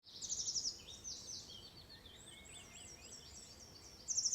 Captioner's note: birds chirping